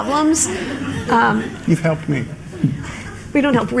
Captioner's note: laughter